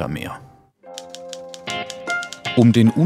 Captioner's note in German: Schreibmaschinengeräusche